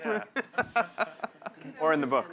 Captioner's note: laughter